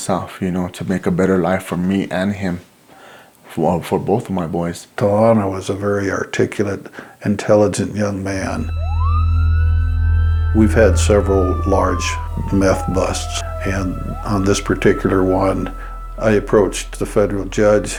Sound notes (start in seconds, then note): 8.7 siren